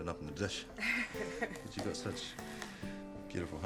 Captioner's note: Kate chuckles